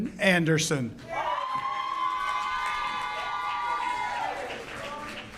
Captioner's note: audience cheers